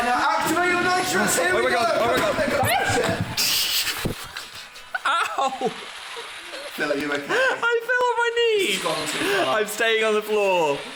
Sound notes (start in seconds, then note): 4.8 laughing out of agony